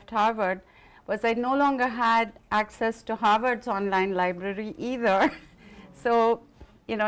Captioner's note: laughs